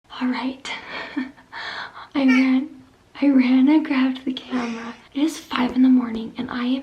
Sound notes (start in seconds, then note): 2.2 laughs